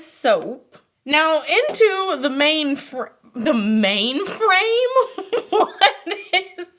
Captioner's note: laughs